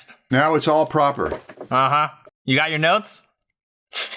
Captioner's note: laughs